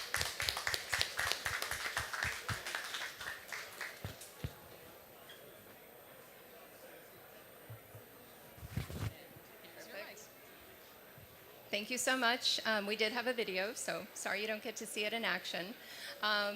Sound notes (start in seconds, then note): 2.8 applause